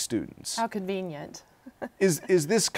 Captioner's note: laughs